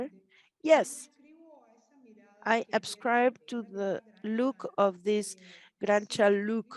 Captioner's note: speaks Spanish